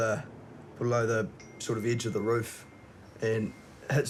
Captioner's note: cell phone dings